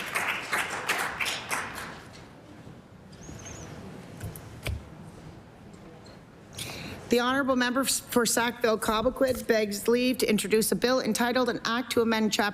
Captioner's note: applause